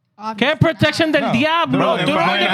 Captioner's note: speaking In Foreign Language